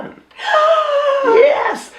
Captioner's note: gasps